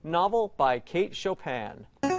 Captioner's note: player buzzer